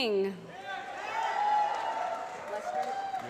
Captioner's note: applause